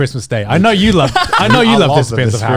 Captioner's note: chuckling